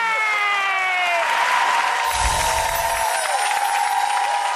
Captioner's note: audience applause